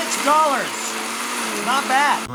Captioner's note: blender whirring